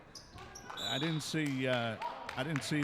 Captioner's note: referee whistling